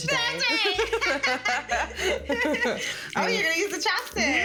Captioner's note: both laughing